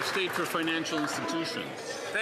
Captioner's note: some Applause